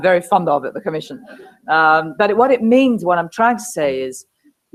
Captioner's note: laugh